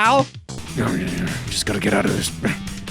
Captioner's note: grumbling